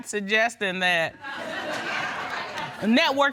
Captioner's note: laughter